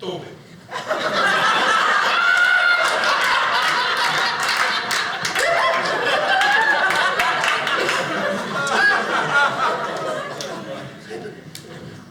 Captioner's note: audience laughing